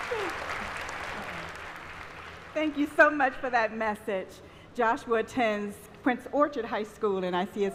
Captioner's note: applause